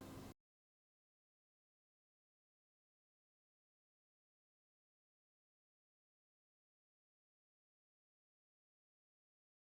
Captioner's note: silence